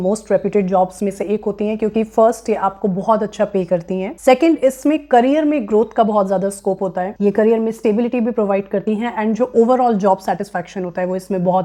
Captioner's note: speaking hindi